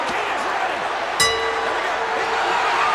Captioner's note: bell rings